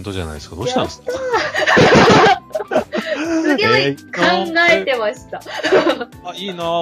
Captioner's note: laughter